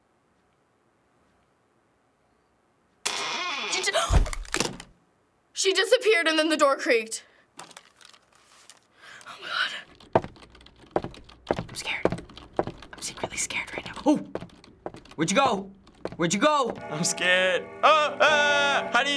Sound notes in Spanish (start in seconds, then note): 0.2 silencio; 3.0 Clics interruptor de la luz, puerta cruje; 9.0 En voz baja; 11.4 Susurrando